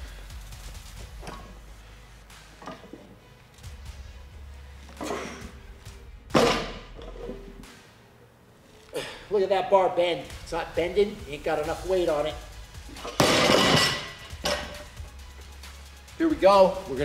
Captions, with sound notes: (upbeat music) (sharp exhale) (weights slamming) Look at that bar bend. It's not bending, ain't got enough weight on it. (weight slamming) Here we go.